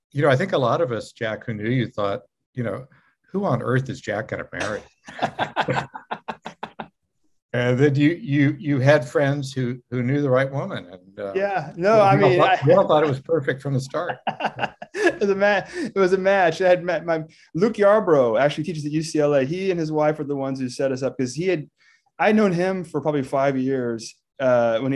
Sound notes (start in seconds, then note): 5.0 laughing; 13.7 laughing